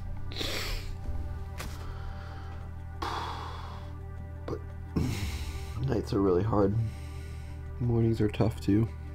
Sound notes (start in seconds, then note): 3.3 sighs